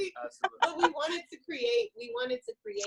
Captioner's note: laughs